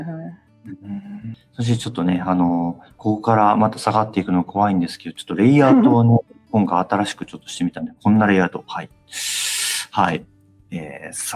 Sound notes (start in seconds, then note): 5.6 laughs